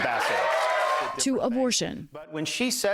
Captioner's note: cheering and applause